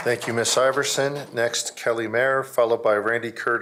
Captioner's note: applause